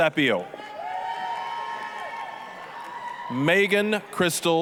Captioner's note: applause, cheering